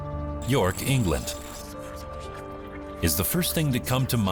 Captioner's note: static hissing